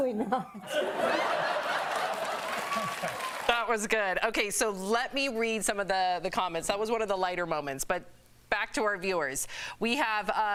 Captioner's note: laughter